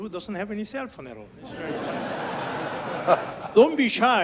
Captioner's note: audience laughs